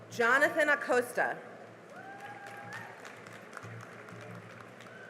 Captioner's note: cheering and applause